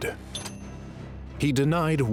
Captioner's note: typewriter dings